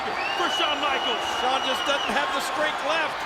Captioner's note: audience cheering